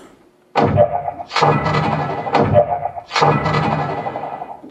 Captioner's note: portal gun fires twice